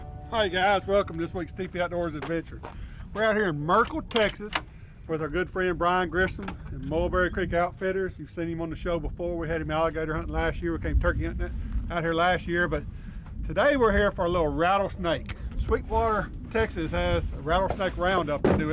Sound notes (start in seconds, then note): none